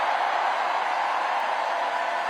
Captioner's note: cheering; applause